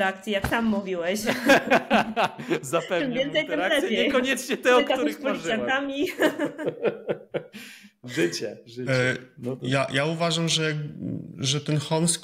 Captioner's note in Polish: śmiech